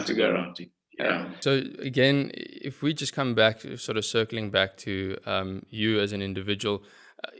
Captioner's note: laugh